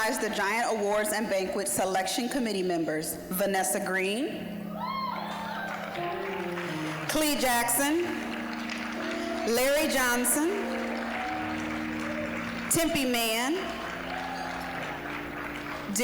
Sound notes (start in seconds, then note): 5.2 applause, cheering; 8.5 applause; 11.5 applause; 14.6 applause